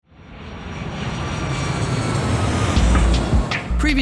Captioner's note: airplane roars